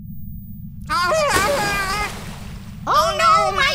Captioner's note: Narb yelling abruptly; liquid splashing